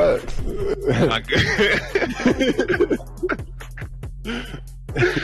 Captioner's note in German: Gelächter